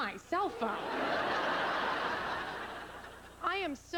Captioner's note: laughter